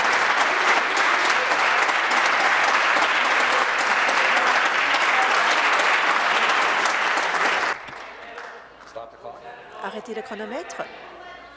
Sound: applause

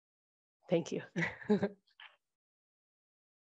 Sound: chuckles

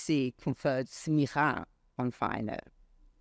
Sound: speaks foreign language

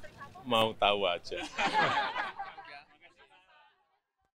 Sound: laughing

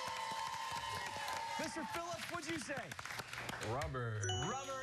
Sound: cheers and applause

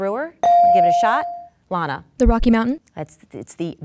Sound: dinging

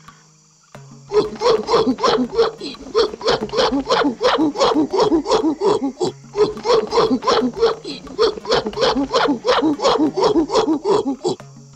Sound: aggressive hooting sounds

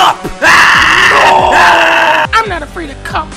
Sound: team screaming

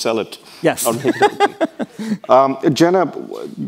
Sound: laughs

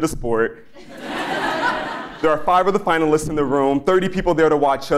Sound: laugh

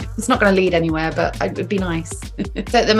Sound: chuckles

